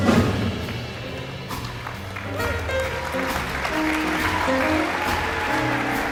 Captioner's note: audience applauding and cheering